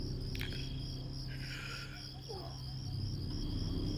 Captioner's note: tense music; Aaron gasps